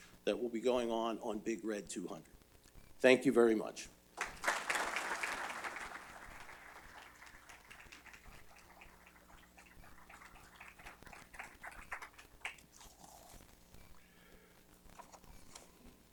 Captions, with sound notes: that will be going on on Big Red 200. Thank you very much. [ Applause ]